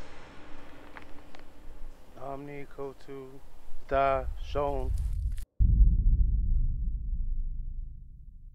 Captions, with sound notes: Omni, Kotu, Dye, Shoun. [wind blows]